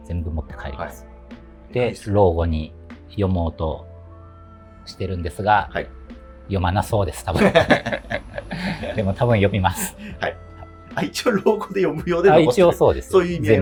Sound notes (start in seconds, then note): 7.3 laughing